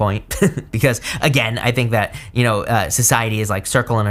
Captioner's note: chuckles